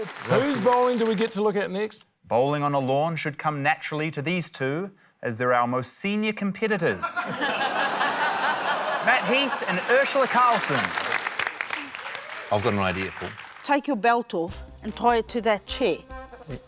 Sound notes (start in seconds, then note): 7.0 laughter; 11.7 applause